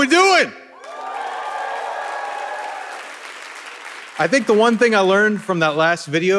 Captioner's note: audience cheering